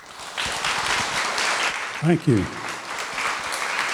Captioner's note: applause